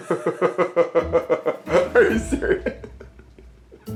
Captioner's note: laughing